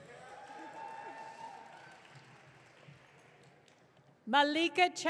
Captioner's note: audience cheering